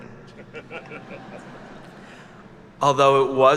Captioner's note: attendees laugh